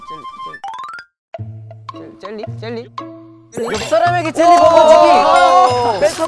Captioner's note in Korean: 저벅저벅